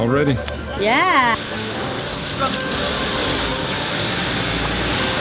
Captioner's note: streaming traffic